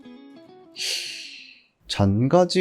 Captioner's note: sigh